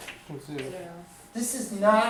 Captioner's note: voiceover